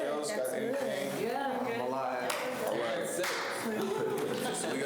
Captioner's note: students chatter